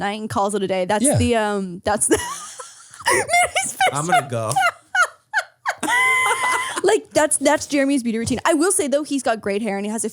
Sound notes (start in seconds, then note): 2.0 laughs